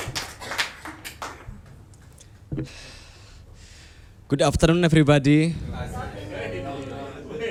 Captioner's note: applause